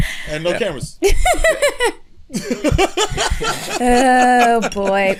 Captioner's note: laughter